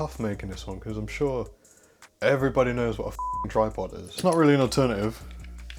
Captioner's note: beep